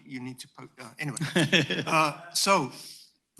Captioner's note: laughter